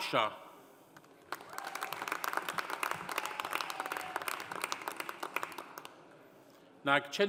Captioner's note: audience applauding; audience cheering